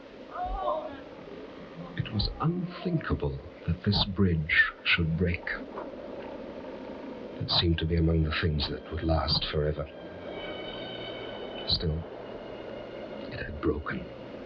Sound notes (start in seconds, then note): 1.6 bystanders groaning; 5.4 bridge creaking; 6.5 wind rustling